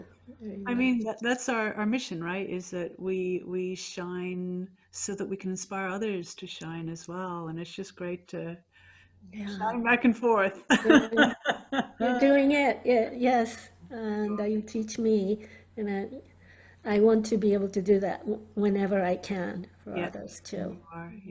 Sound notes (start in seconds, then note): 10.7 laughs